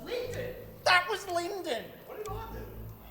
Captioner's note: mocks